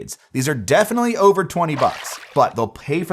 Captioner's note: water splashing